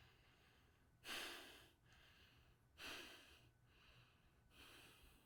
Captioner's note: Carlton breathing heavily